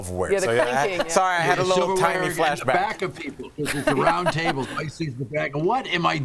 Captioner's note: laughter